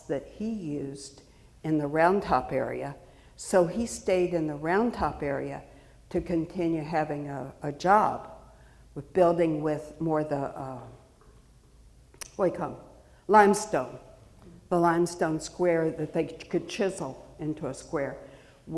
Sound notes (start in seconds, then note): none